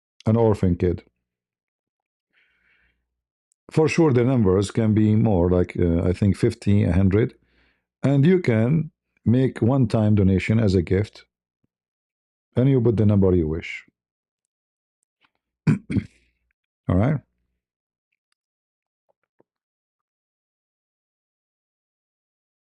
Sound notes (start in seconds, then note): 15.6 berdehem